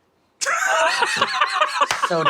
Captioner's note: laughs